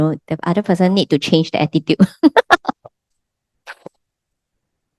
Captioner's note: laughters